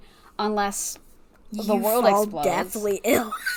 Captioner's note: wheeze laughs